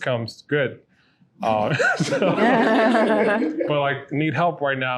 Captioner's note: they laugh